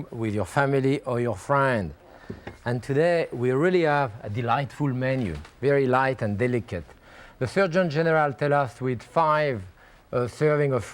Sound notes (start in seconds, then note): none